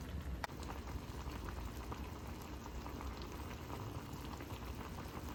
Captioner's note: bubbling asmr